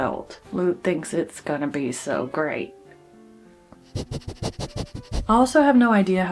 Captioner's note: sniff